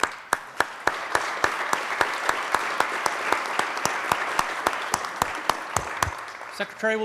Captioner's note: applause